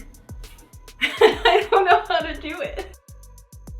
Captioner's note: laughing